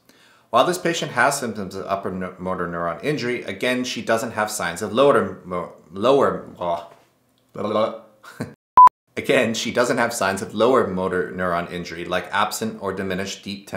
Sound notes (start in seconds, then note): 8.7 beep